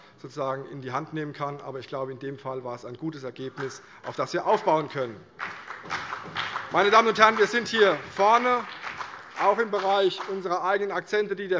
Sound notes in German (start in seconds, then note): 5.3 Beifall CDU und BÜNDNIS 90/DIE GRÜNEN